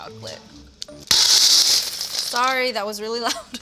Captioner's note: grinder clatters